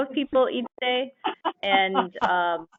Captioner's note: laughter